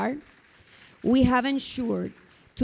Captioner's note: audience applauding